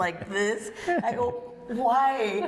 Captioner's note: laughter